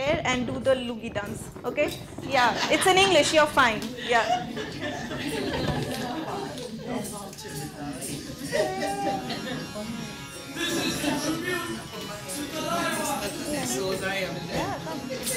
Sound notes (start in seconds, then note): 3.9 laughing; 6.8 audience chattering